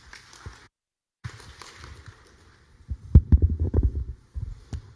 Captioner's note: applause